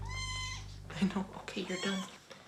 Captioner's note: kitten meows